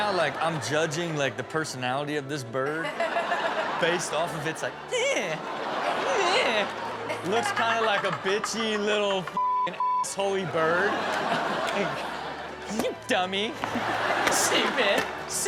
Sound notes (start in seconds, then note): 2.8 all laugh; 4.9 vocalizes; 6.3 audience laughs; 9.3 beep; 10.1 audience laughs